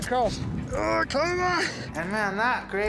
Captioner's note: grunting